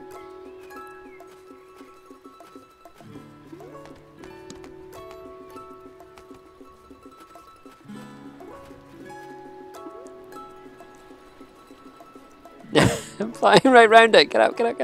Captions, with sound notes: (laughs) I'm flying right around it.